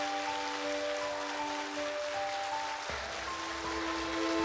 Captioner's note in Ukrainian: оплески